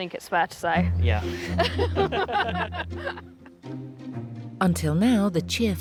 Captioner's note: couple laughing